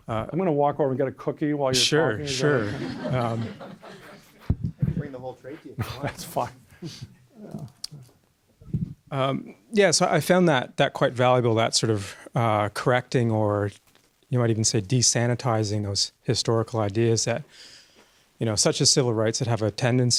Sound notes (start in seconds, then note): 2.2 voiceover; 2.2 audience laughs; 4.7 voiceover; 9.7 voiceover